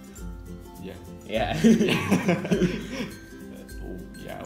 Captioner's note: laughter